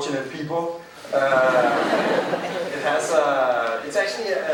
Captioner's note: crowd laughing